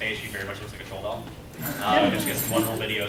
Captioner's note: laughter